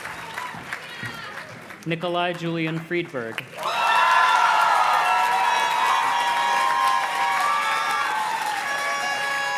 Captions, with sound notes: Nikolai Julian Friedberg. (audience cheers and claps) (party horn blows)